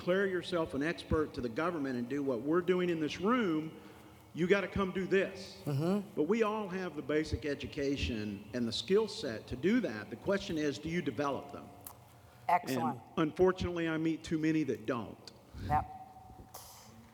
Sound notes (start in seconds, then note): none